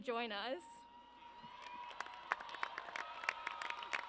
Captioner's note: audience cheers